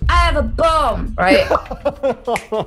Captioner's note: both laugh